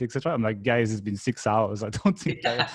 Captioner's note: laughs